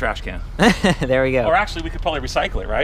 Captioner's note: laughs